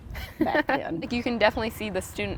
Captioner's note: chuckles